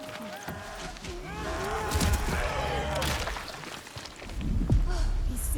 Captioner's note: screaming